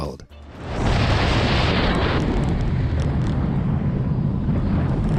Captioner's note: roller coaster whooshing